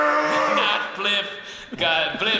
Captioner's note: hollering loudly